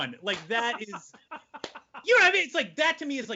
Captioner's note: laughing